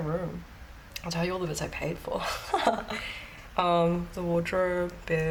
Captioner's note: laughs